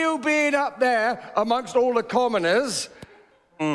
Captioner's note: laughter